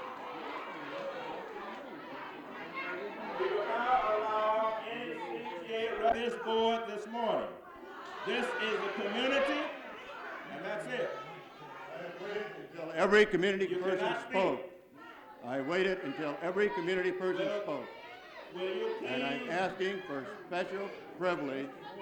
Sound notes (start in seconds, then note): 0.0 audience yelling; 3.3 talking over audience